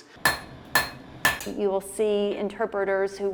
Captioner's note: mallet pounding